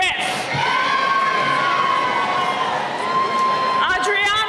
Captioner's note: cheering